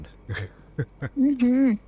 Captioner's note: laughs